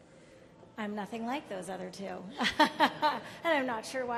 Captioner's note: laughs